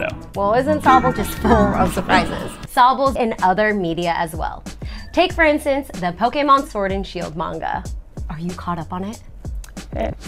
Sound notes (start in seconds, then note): 2.7 back to normal voice